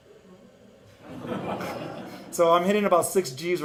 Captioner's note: audience laughing